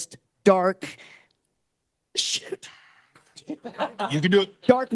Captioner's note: all laughing